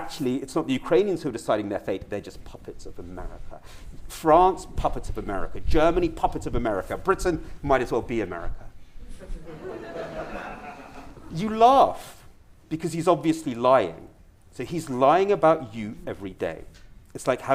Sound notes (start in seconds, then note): 9.2 audience laughter